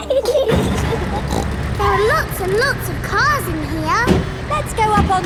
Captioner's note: giggling; snorts